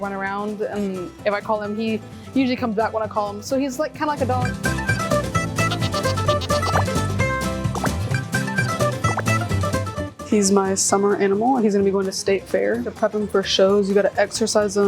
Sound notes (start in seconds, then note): 4.4 upbeat music continues; 5.5 sheep baaing; 5.6 graphics popping